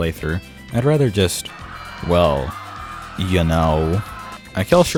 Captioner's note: screams in the background as Peri kills everyone